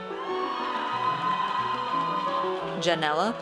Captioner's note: audience cheers